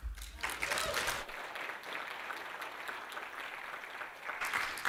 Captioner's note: applause